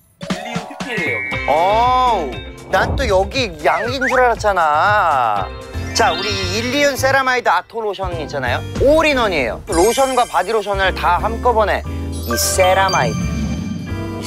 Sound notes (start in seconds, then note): 5.7 high tone